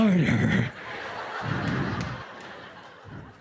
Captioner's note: laughter